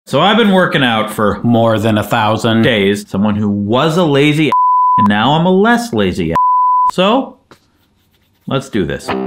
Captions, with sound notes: - So I've been working out for more than 1000 days. Someone who was a lazy (beep) and now I'm a less lazy (beep). So let's do this.